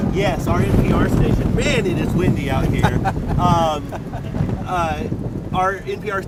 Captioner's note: laughs